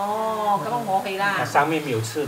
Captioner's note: Cantonese